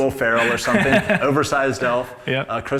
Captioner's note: laughs